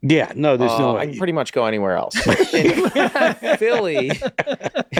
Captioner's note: all laughing loudly